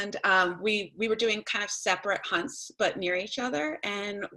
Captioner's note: none